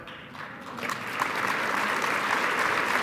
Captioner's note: applause